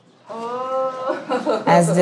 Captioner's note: laughs